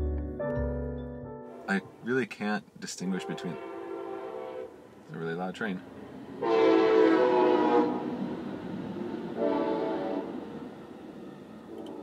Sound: train horn blares

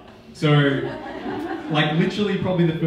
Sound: audience laughing

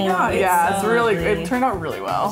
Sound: happy chatter

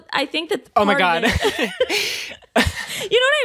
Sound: laughs

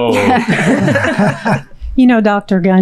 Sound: all laughing

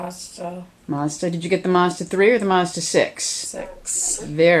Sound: voiceover

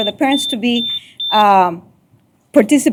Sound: beep

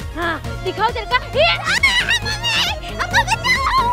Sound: yelling

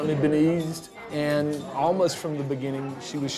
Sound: none

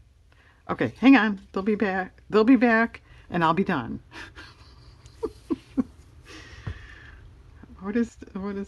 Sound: laughs

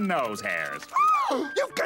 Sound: gasping

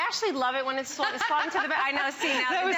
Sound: laughter

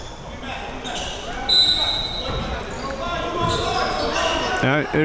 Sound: whistle blows

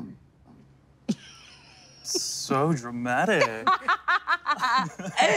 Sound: laughing

